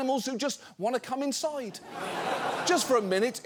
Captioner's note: studio audience laughs